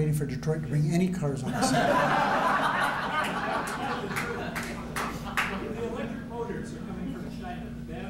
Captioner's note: laughter